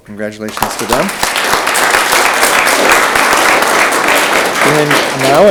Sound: audience clapping

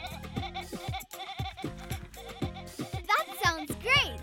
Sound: excited bleating; Moyo bleating to the beat

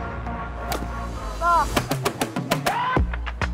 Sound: golf club whooshing; funky music

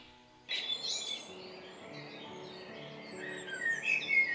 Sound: bird sing

